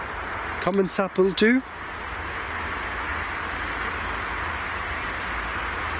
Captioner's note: speaking in foreign language